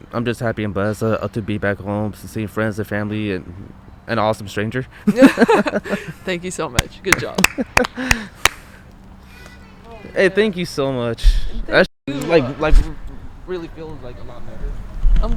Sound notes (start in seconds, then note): 7.0 hand clapping